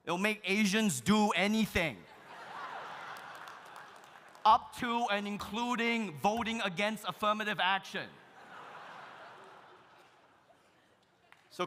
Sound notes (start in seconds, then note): 2.0 audience laughs; 2.5 audience applauding; 8.2 audience laughs